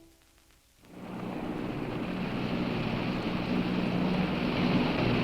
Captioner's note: distant boat engine hums